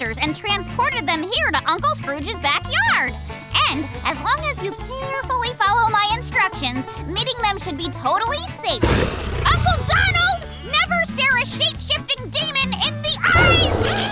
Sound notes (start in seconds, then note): 8.8 roaring